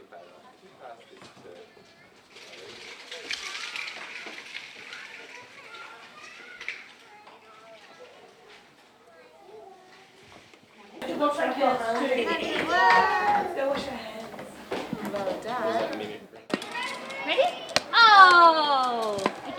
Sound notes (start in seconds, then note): 11.1 children and adults chatter